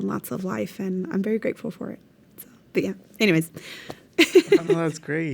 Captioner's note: laughs